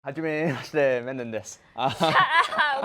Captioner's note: in Japanese